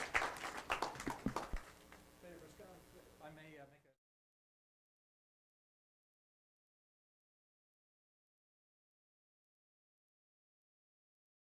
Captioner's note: applause